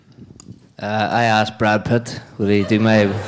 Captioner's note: audience laughing